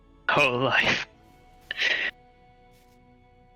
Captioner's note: Krel gasps